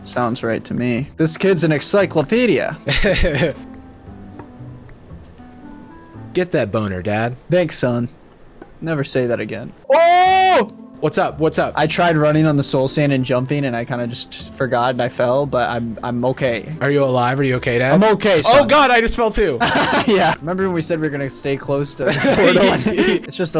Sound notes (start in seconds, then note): 2.9 laughing; 10.2 shouting; 19.6 laughing